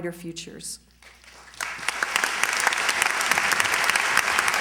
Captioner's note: applause